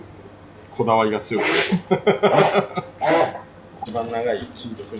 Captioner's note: laughs